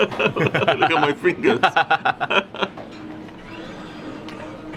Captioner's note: both laughing